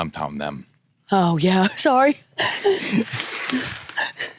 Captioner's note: laughs